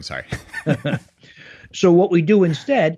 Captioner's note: both chuckle